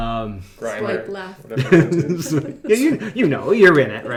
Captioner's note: giggles